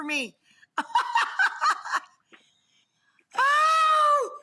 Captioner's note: laughs